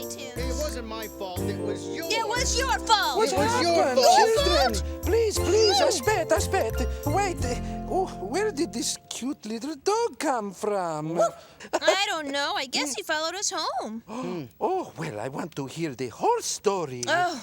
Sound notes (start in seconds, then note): 11.1 dog barks